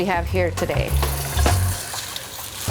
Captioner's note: simmering sound